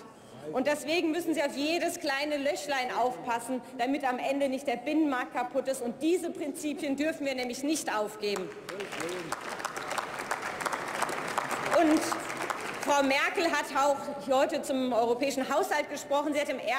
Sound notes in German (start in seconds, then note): 8.3 Beifall beim BÜNDNIS 90/DIE GRÜNEN sowie bei Abgeordneten der FDP